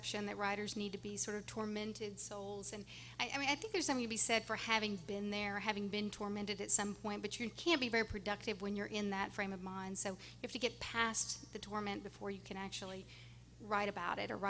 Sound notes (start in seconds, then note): none